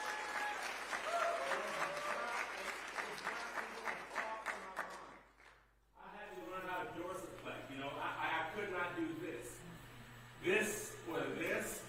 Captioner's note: applause